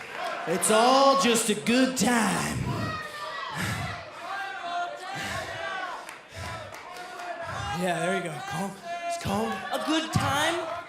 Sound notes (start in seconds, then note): 3.9 crowd chatter